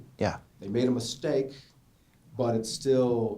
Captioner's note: voiceover